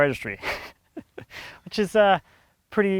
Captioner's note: laughing